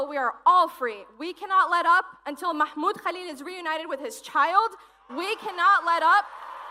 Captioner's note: cheers and applause